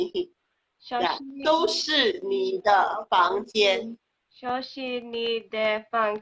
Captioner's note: speaking foreign language